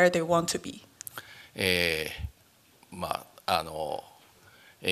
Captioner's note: speaking japanese